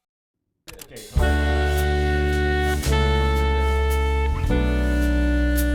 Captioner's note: camera clicking; jazz music